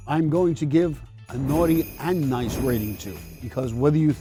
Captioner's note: bells ringing